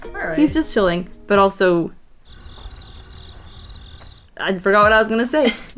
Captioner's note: crickets